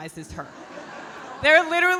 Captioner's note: audience laughing